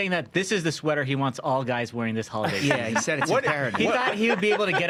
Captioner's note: laughter